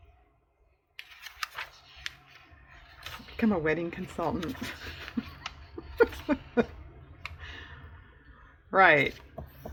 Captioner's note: laughs